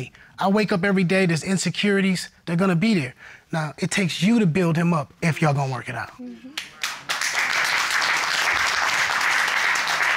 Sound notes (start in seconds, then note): 6.6 audience applauding